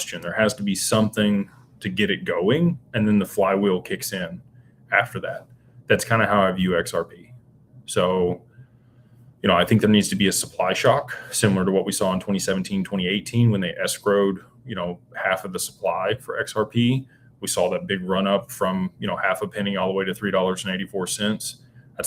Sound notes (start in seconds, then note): none